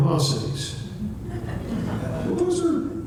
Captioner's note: light laughter